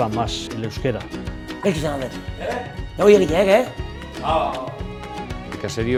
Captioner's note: speaking Euskara